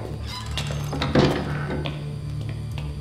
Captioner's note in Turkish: Kapı kapanma sesi; Müzik - Gerilim